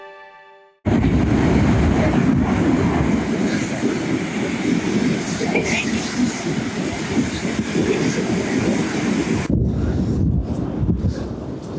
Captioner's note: sound of Waves